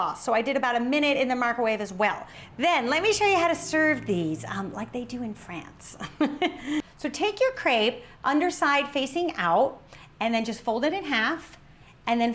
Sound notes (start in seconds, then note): 5.9 laughs